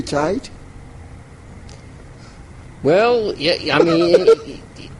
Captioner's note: laughs